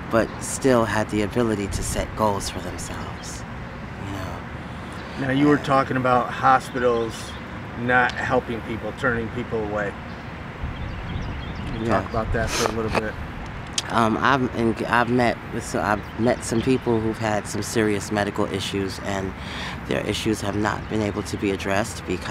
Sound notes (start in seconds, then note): 12.4 sniffs